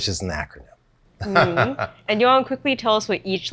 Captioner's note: laughs